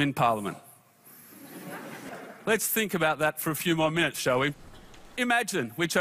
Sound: laughter

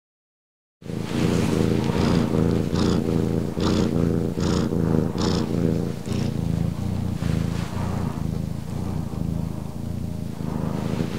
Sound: purring cat

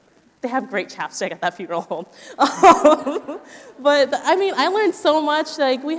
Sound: laughs

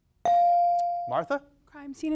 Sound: device dings

